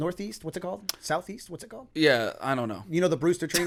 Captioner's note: chuckle